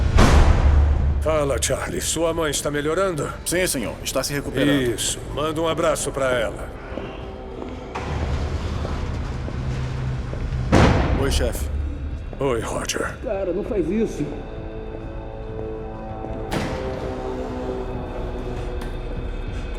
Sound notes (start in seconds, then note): 13.8 chattering